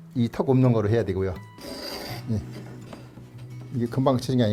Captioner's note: planing sound